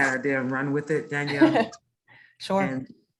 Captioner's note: chuckles